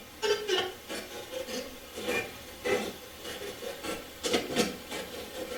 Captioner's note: static playback transmitting